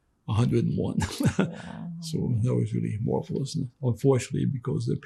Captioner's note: laughing